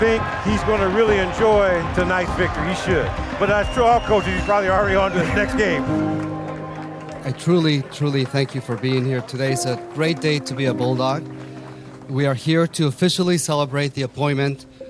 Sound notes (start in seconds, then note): 6.3 people clapping; 7.2 people chattering